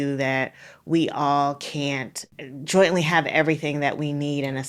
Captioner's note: none